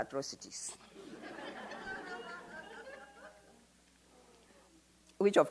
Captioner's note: audience laughs